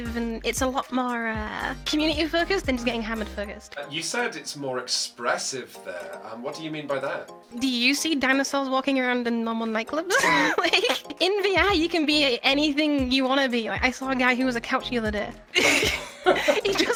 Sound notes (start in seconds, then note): 10.0 woman laughs; 15.5 both laughing